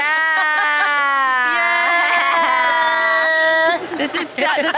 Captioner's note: all exclaiming